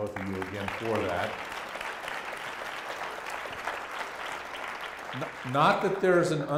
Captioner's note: applause